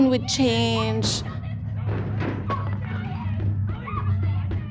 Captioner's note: people shouting